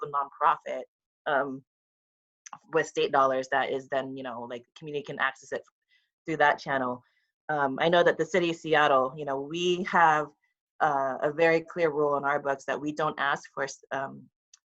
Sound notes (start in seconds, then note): none